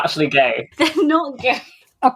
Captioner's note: laughing